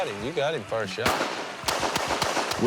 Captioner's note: gunshots continue